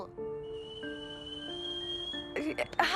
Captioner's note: kettle whistle